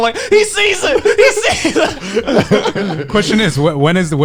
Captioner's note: laughing